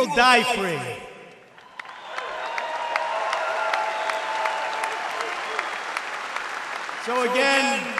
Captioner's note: applause